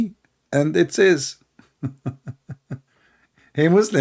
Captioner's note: L aughter